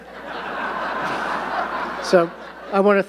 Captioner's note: audience laughing